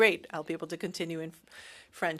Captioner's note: speaking French